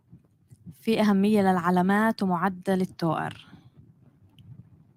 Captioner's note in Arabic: لغة أجنبية